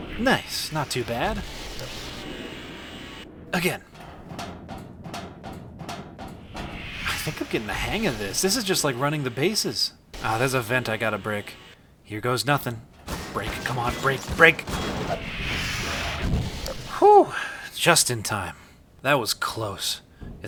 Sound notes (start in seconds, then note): 0.0 powerful zap; 2.8 footsteps; 6.4 powerful zap; 12.4 repeated banging; 15.4 powerful zap